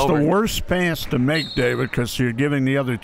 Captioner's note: referee blows whistle